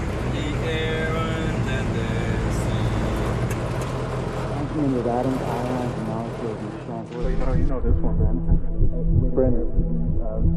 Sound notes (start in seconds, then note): 4.6 distorted speaking